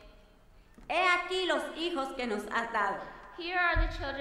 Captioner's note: speaking in foreign language